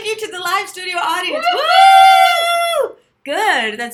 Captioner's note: excited cheers